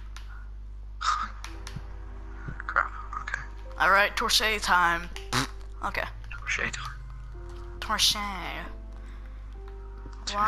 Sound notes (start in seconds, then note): 5.3 fart Sound effect